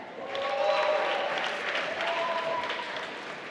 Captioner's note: applause